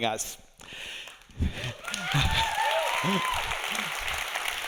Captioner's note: audience cheering